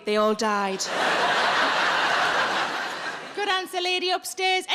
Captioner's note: audience laughs